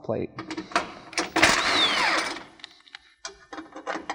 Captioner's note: drill socket whirring